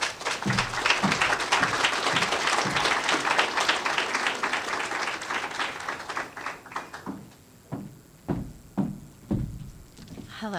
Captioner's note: applause